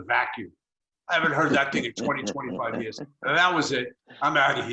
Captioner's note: laughs